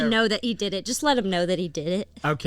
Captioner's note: none